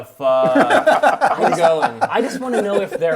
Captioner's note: group laughs